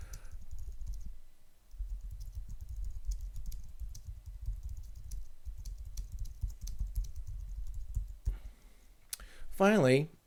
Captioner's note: typing on screen